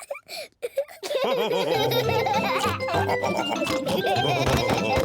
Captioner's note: giggles; all laugh